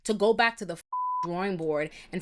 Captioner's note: beep